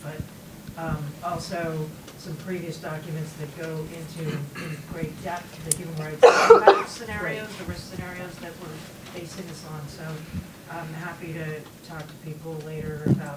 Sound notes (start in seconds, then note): 5.7 coughing drowns out speaker